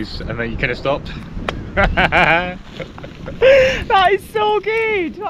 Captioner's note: laughs